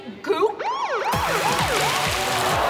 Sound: siren wailing

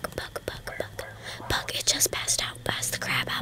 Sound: whispering; whispering

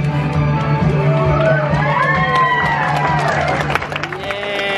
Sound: audience cheering

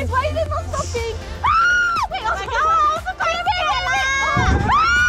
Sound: screaming

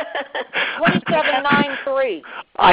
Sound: laughter

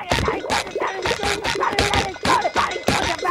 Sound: angry sputtering

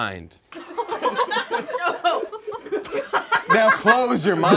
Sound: audience laughs

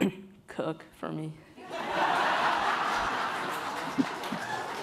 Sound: laughing

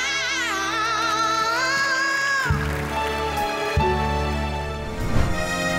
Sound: audience applauds; upbeat music

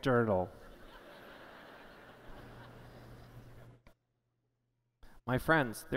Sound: laughter

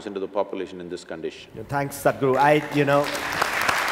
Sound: applause

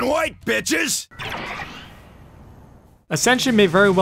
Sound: teddy Bear activation sound effect

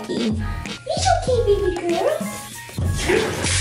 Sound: baby voice; water running

